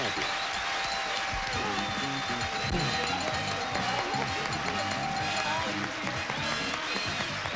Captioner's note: audience applauding